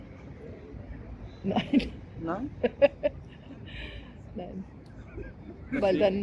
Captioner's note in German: lacht